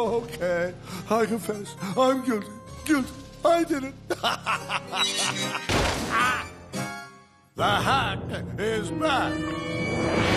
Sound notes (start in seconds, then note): 4.1 evil laugh; 5.6 crash